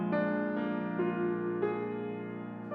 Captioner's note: none